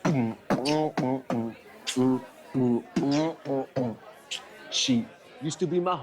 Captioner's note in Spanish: Tararea rap; Canta en inglés